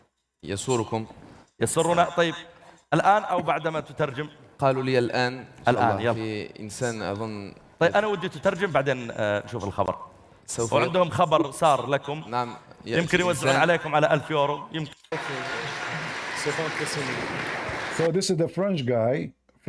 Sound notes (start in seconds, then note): 15.1 Bertepuk tangan